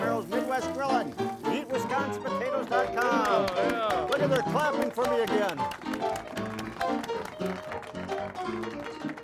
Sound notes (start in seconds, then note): 1.1 ragtime music resumes; 2.8 audience applauds